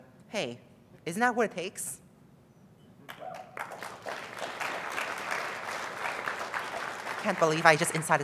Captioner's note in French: applause